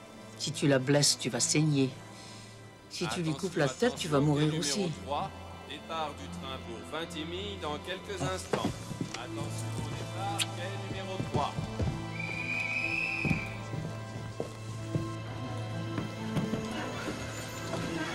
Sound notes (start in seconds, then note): 5.1 announcement over P.A